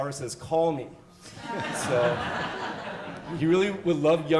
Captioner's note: audience laughs